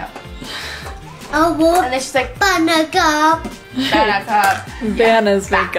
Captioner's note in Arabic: ثرثرة